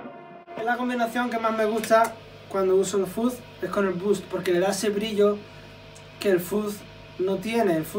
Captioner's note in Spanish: Fuzz